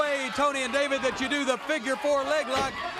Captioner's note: crowd cheering